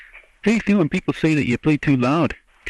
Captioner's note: laughs